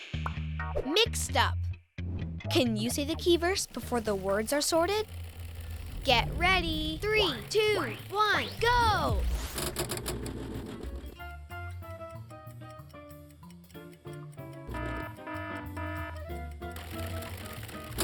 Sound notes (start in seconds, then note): 10.9 bright music; 14.7 alarm buzzing